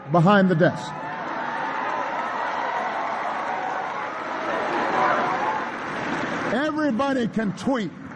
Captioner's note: applause